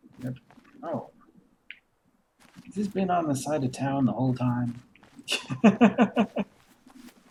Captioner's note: chuckles